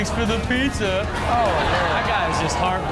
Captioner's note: audience laughs